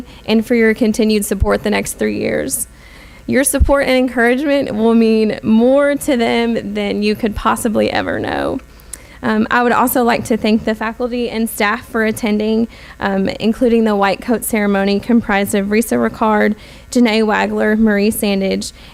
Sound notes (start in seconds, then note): none